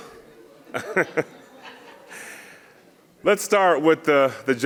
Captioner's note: chuckling